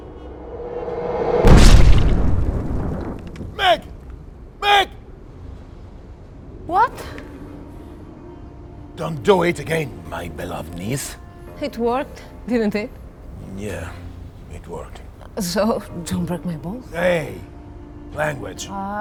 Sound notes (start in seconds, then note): 0.0 dramatic music; 1.2 bombs exploding